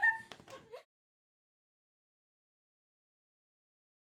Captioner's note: silence